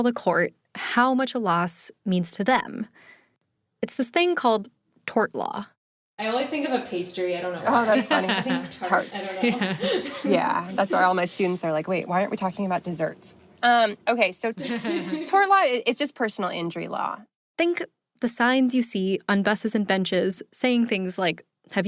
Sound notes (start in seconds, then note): 7.8 laughs; 14.6 giggles